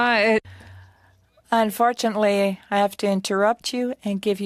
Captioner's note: speaking French